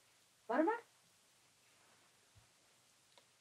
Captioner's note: woman speaks Mongolian